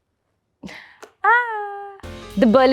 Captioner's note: gasps; lively jazz music